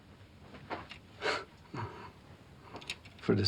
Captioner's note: chuckles